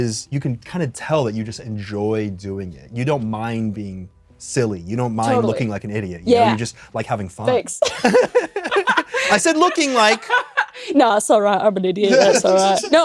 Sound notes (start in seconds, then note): 7.8 both laugh; 10.2 Kris laughs